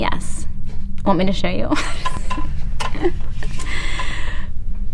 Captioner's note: laughs